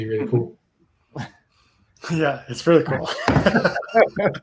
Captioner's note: chuckles; both laughing